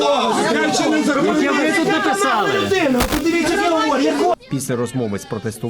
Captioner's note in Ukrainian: вигуки учасників протесту, всі говорять разом